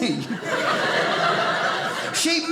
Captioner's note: audience laughing